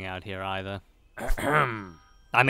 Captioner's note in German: räusper